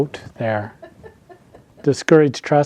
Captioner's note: attendee laughing